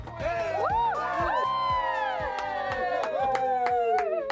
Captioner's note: all cheering